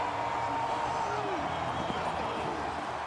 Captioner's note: crowd cheering